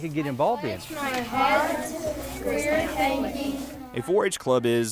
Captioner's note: kids talking